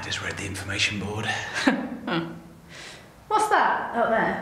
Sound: chuckles

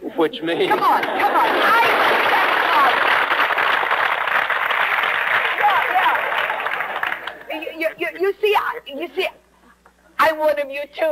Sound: audience clapping

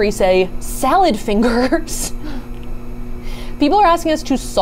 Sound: laughs

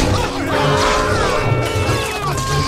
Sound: collective screaming

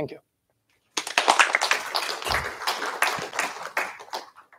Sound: applause

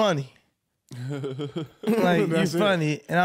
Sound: chuckling

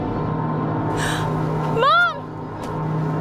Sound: gasps

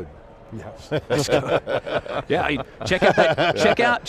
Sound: everybody laughing

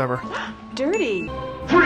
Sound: gasp

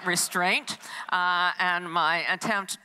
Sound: audience laughs

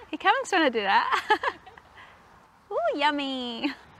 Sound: both laugh

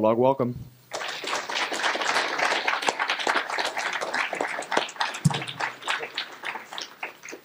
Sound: applause

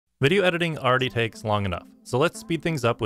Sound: voiceover

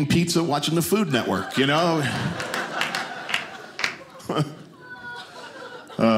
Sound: audience laughing

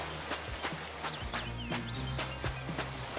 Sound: waterfall sound; steps

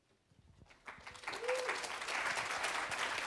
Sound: applause

